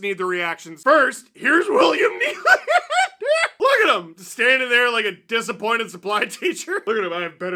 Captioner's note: laughter